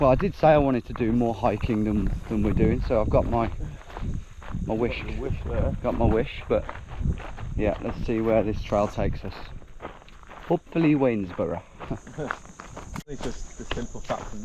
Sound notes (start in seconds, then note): 11.8 chuckle